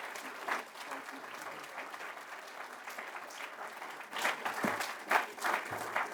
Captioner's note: applause